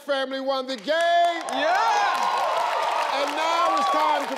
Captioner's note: audience clapping; audience cheering